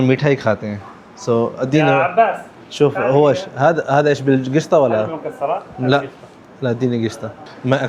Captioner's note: Arabic